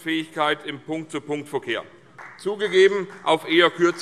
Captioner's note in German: Beifall